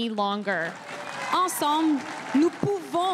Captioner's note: crowd cheering and applauding